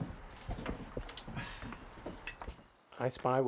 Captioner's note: footsteps; sighs